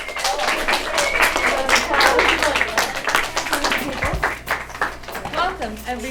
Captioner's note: applause, cheering